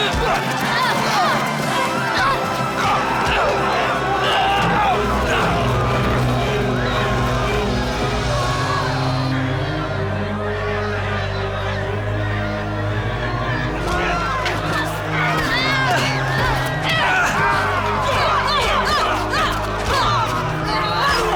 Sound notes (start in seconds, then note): 0.0 punching and grunting; 3.5 Lex shouting; 4.9 dark intense music; 13.8 screaming and punching; 15.2 Ebony screaming; 17.7 grunting